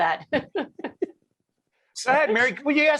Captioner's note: laughing